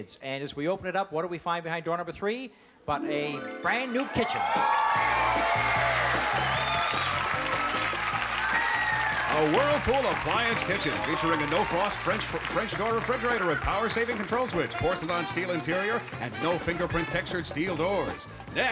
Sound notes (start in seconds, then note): 4.4 cheering